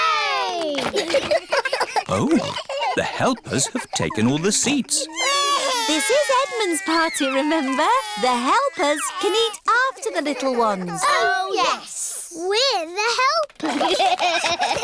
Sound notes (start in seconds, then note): 1.5 giggles; 5.5 babies crying